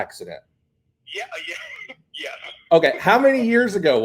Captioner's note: laughs